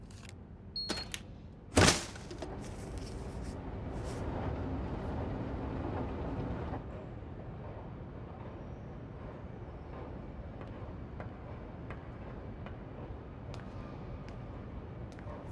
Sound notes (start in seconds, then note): 0.8 beep; 1.7 garbage hitting can